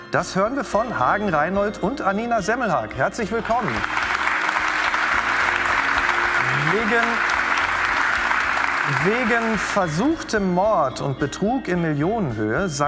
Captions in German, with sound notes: das hören wir von Hagen Reinhold und Annina Semmelhaack. Herzlich willkommen. (Applaus) Wegen versuchtem Mord und Betrug in Millionenhöhe